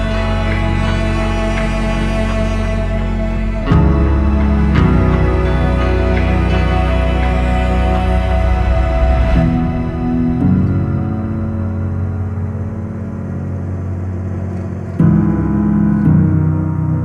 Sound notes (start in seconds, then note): none